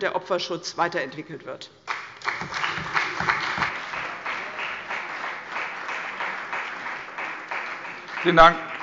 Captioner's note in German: Beifall bei der CDU und dem BÜNDNIS 90/DIE GRÜNEN